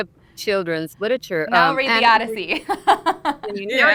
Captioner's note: laughs